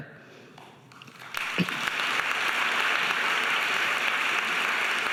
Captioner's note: audience applauding